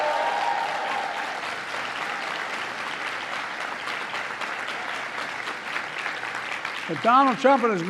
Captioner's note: applause